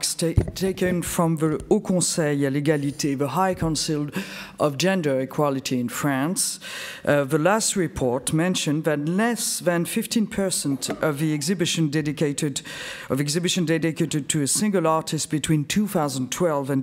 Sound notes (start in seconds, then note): 1.6 speaks French